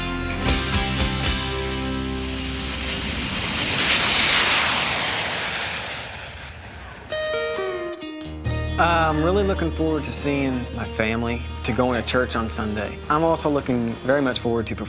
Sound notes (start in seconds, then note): 2.8 plane whooshes; 7.2 country music